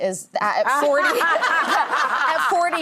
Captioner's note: audience laughing